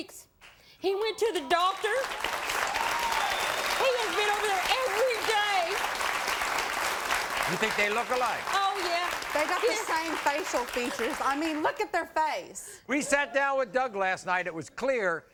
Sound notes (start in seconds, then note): 5.0 applauding